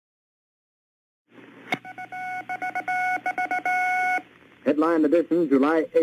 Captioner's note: satellite static